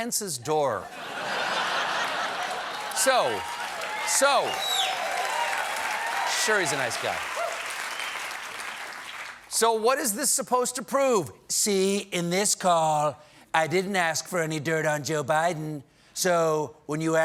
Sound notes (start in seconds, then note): 2.9 cheers and applause; 2.9 laughter